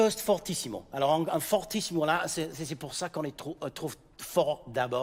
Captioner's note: speaking in French